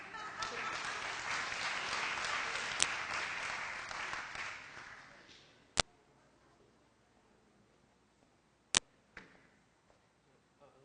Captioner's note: applause